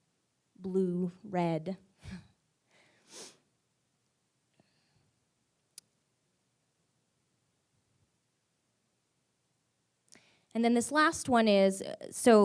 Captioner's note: silence